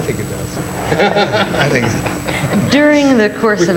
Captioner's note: all laugh